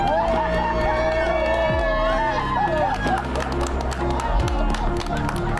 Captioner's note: crowd cheering and applauding